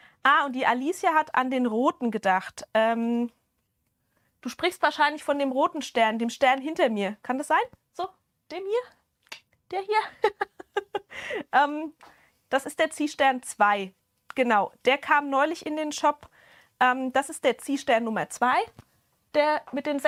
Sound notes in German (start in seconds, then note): 10.1 Gelächter; 11.0 japst